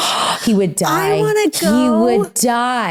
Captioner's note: gasps